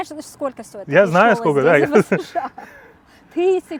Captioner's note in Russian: смеются